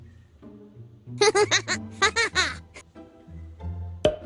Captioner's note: holding her laughter